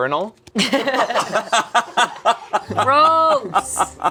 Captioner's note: group laughing